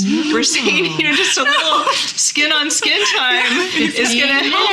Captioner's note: laughing